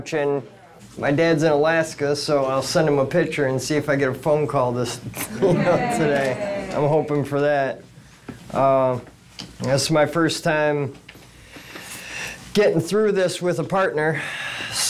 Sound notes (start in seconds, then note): 5.2 chuckles